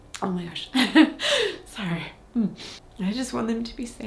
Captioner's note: chuckles